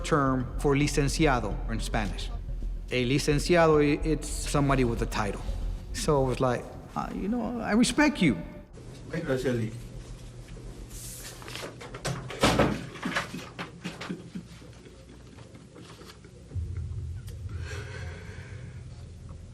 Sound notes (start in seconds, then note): 8.5 speaking Spanish; 11.9 door closes; 13.2 sobbing